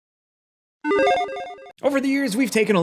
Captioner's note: electronic chiming